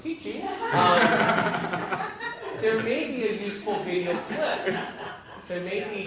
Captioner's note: laugh